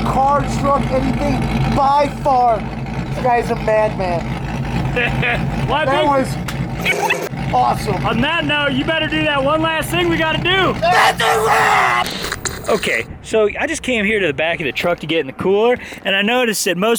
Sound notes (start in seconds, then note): 4.8 laughing; 6.7 tape rewinding; 11.5 yelling